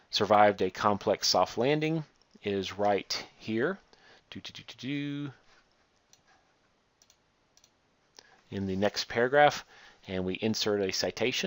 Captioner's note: clicking